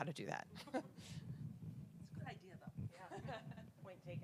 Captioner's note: laugh